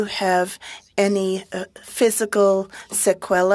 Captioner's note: speaking french